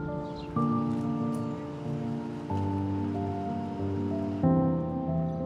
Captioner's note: sounds of the Brooklyn streets